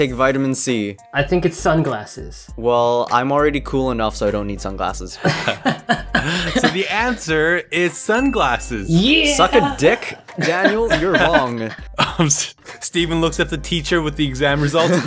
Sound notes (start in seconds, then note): 5.2 laughs; 12.1 giggles